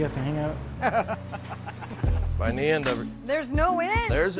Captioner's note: laughter